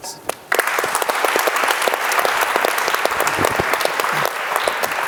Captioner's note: audience applauding